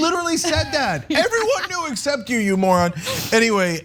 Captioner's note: laugh